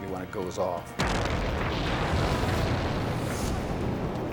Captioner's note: explosion booming